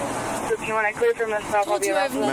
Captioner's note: radio chatter